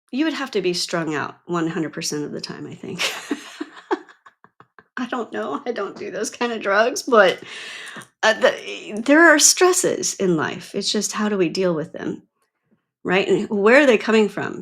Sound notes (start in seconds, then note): 2.9 laughs